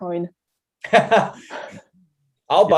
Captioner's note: laugh